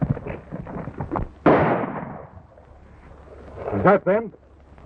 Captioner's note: horses galloping; gun fires